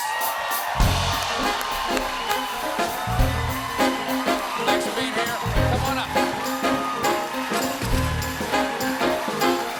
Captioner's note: cheers and applause; band playing